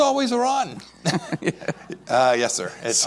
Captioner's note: laughs